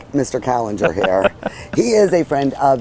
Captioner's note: laughing